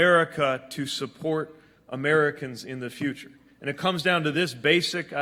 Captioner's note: none